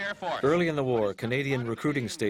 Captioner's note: voiceover